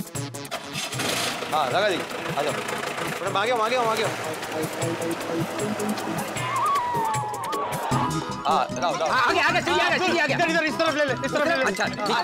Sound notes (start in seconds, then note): 4.3 engine revs